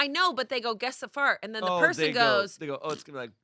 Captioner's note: imitates fart